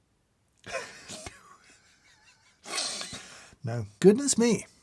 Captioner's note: exhales